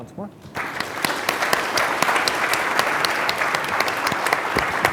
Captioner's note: audience clapping